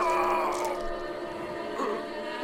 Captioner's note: screams